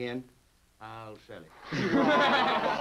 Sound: group laughs

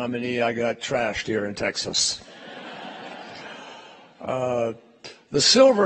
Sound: laughter

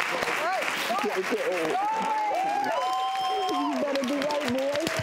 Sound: audience cheers and applauds

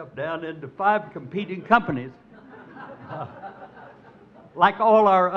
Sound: crowd laughs

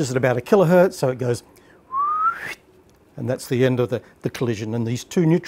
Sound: whistle

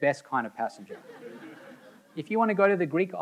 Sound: audience laughing

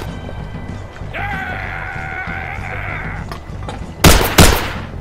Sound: rage scream

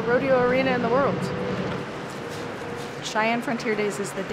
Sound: motor whirring

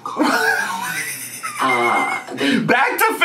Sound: laughs

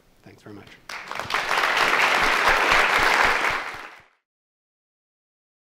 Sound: attendees applauding

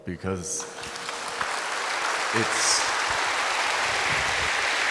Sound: audience applauds

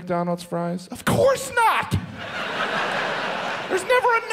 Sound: audience laughs

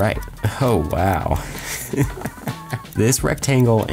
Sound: laughs

